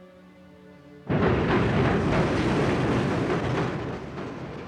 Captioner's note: train rumbling